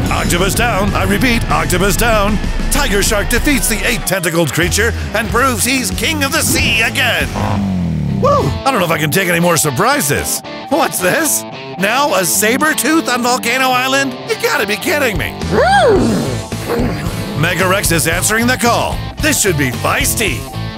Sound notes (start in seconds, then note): 15.4 groans